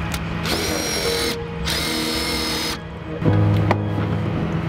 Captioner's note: drill whirring